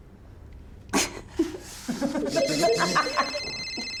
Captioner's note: laughing; phone ringing